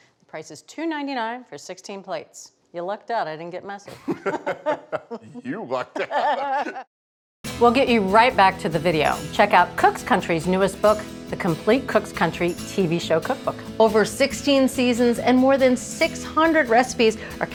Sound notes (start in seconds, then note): 3.8 both laughing